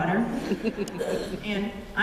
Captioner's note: laughter